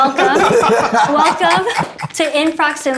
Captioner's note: laughter